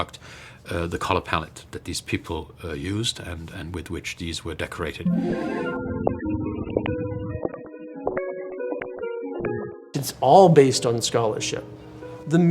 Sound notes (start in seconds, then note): 5.0 bright music; 5.1 footsteps clopping